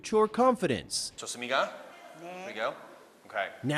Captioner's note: speaking Korean